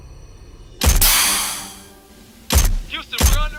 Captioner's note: gunfire